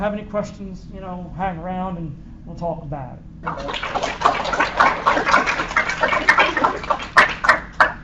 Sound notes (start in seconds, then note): 3.4 applause